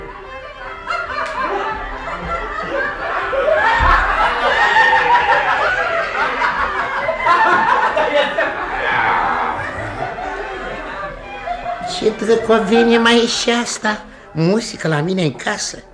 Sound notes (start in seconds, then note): 0.8 everyone laughs